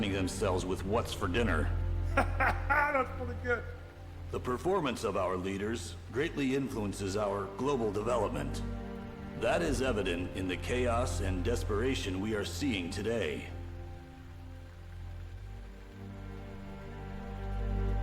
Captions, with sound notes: with what's for dinner. (Sargon laughing) - That was pretty good. - The performance of our leaders greatly influences our global development. That is evident in the chaos and desperation we are seeing today. (dramatic music)